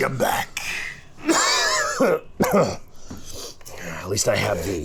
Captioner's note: Alton Coughing